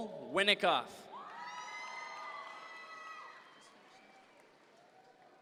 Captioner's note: audience members cheer